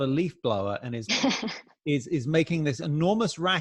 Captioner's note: chuckles